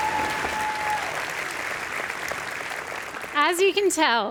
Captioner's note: applause